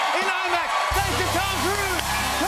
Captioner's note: cheers and applause